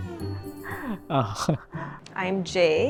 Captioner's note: chuckles